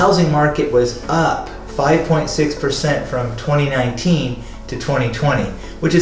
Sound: speaker inhales

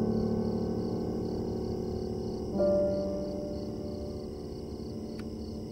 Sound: crickets chirping

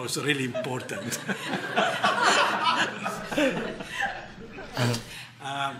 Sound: laughter

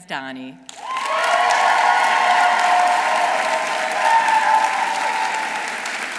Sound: audience applauding; audience cheering

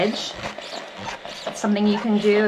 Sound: steam iron whooshing

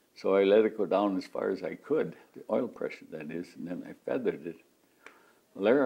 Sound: none

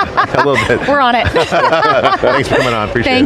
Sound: everyone laughs

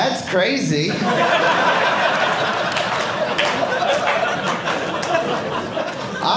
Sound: audience laughing

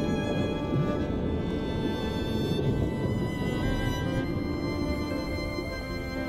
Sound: underwater bubbles

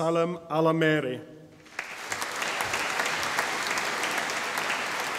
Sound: audience applauding

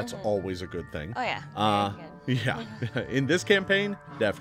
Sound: laughs

